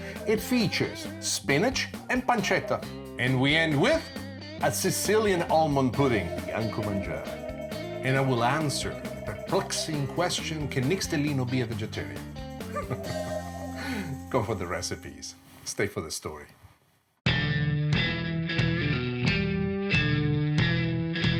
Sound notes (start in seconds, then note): 12.6 laughing; 17.3 catchy instrumental music